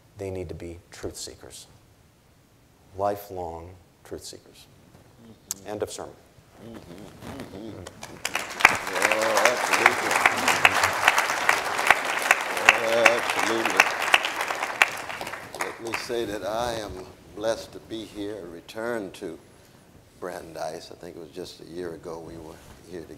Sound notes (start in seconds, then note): 8.6 audience applauding; 11.0 drowned by applause